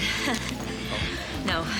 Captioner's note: chuckles